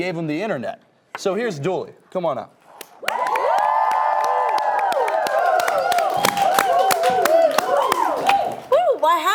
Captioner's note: audience clapping